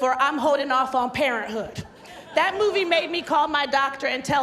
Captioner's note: laughter